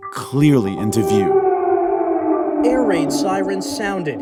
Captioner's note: soundbite of archived recording